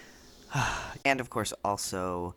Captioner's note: sigh